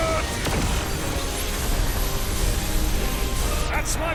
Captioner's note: spells crashing